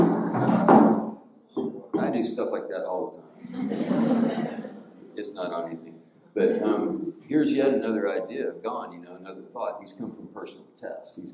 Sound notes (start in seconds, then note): 1.6 bottle thudding; 3.4 audience laughing